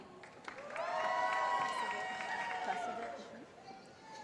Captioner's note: cheering